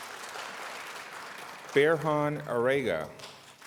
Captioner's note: applause